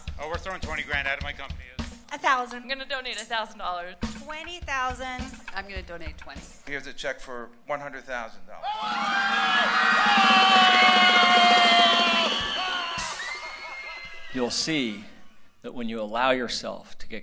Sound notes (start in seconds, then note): 8.7 laughter; 10.0 applause